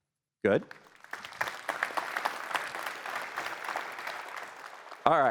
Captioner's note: applause